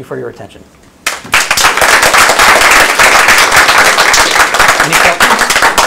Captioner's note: applause